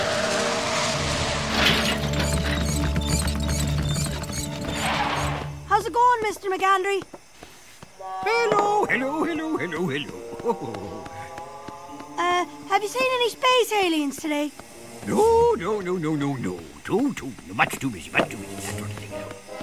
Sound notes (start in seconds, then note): 0.0 creaky wheels roll on wood